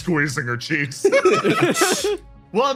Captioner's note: laughs